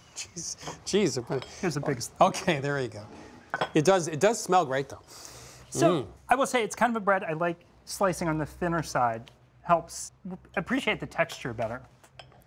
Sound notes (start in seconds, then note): 5.0 sniffs